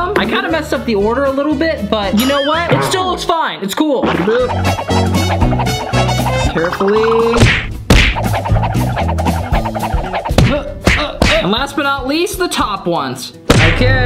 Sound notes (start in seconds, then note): 4.6 fast movement sound effect; 5.4 groovy upbeat music; 7.3 punching sound effect; 7.3 fast movement sound effect; 7.8 wobbling sound effect; 12.8 drum roll sound effect